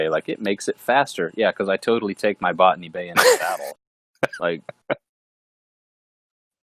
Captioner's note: laughing